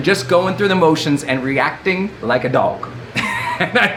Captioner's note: laughing